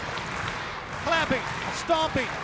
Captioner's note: crowd cheering